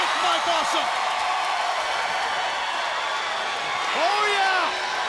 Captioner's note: crowd cheering